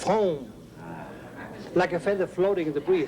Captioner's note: laughs